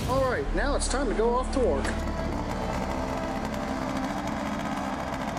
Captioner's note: engine turning